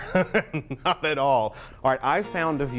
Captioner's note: laughs